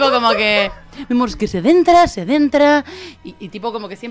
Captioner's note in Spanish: voz de reportera